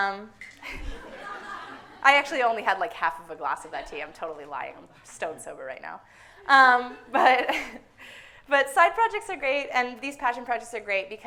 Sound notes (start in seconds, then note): 0.6 everyone laughing